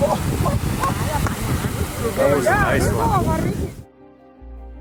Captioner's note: water sloshing; people speaking in foreign language; gentle music